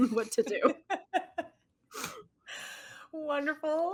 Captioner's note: laughing